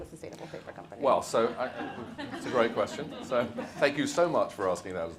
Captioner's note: audience laughs